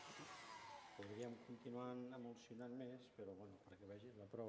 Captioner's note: non-english speech